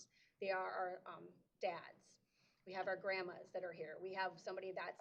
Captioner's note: none